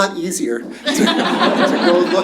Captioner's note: laughter